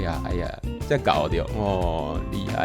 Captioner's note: Taiwanese